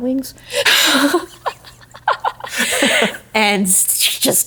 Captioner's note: laughing